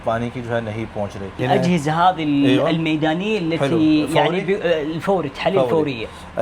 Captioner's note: Arabic